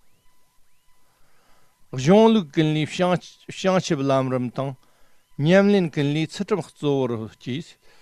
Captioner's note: tibetan